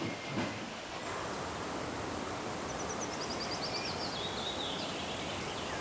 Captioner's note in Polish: szum wiatru